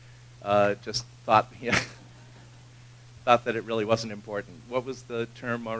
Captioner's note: laugh